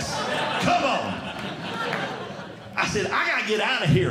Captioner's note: audience Laughing